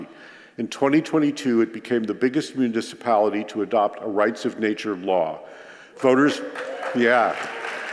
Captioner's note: applause